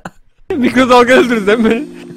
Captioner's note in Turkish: Gülerek